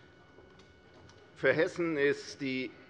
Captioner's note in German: none